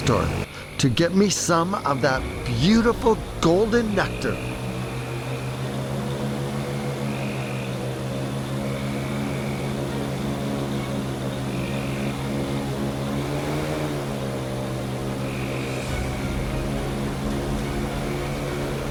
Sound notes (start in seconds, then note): 4.6 motor revving; 4.6 suspenseful music; 16.2 motor revving; 16.2 suspenseful music